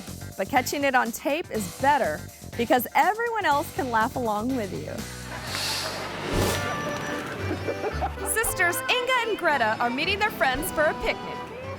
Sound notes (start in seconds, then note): 5.1 audience laughing; 5.3 image whooshes; 6.7 gentle upbeat music; 7.4 woman laughing